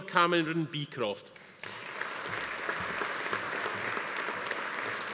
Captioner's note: audience applauding